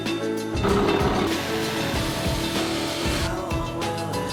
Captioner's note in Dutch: zaag geluiden